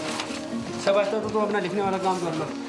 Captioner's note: foreign language spoken